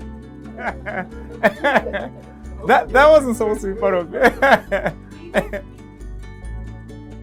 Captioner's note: laughing